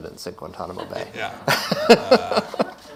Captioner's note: laughs